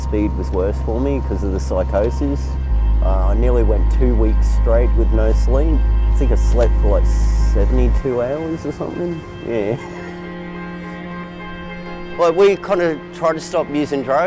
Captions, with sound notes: was worse for me, 'cause of the psychosis. I nearly went two weeks straight with no sleep. I think I slept for like 72 hours or something. Yeah. (laughing) Well, we you kinda tried to stop usin' drugs,